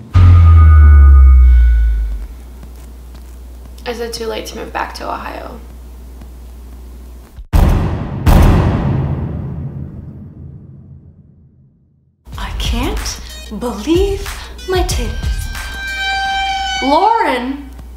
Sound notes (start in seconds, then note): 0.0 dramatic Boom; 7.5 dramatic Booms